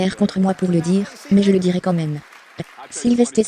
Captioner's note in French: la foule applaudit